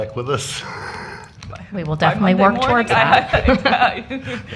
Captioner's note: laughter